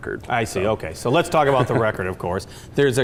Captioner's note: laughs